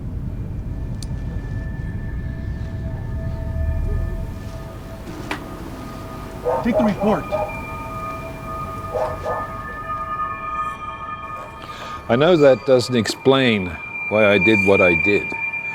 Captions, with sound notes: (disjointed music) - Take the report. (dog barking) - I know that doesn't explain why I did what I did,